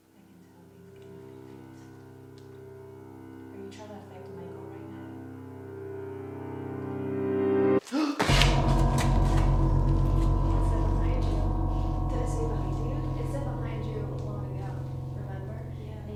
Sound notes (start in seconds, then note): 7.8 gasps; 8.2 ominous music stops